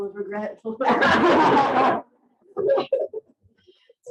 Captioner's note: audience laughing